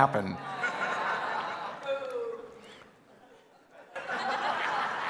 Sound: congregation laughing

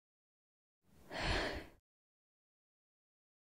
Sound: sighs

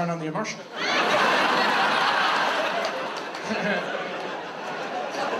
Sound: audience laughs

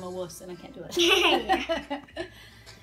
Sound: laughing

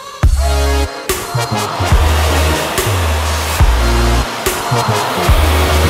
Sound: equipment whirring

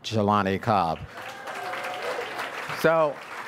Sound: audience applauds

